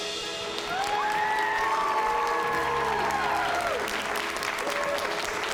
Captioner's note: cheering